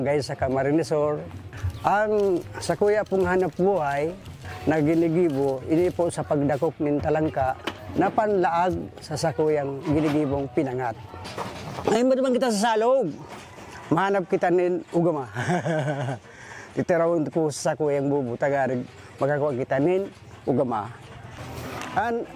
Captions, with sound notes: in the barangay Cagbunga, Gainza, Camarines Sur. My main livelihood is catching talangka that we use in making pinangat. We'll go to the river and I'll find you a talangka. (chuckles) We'll bring the "bobo" so we can get some talangka.